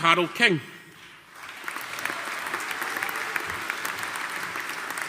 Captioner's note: audience applauding